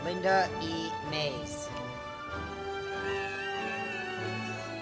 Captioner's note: cheers